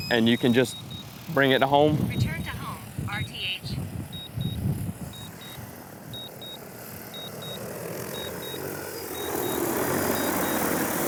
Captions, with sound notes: and you can just bring it to home. - [Drone] Return to home, RTH. (controller beeping) (blades whirring)